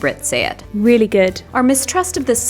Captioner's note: british accent